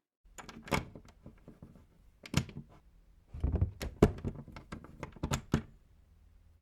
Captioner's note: the sound of a lock being closed